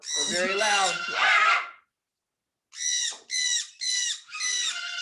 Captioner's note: parrots chirping